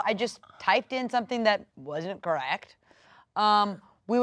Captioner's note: none